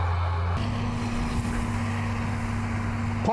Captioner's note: tractor/baler sound